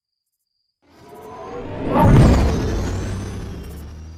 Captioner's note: UFO whirring